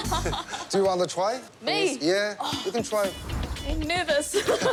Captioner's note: laughs